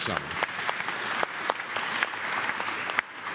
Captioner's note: applause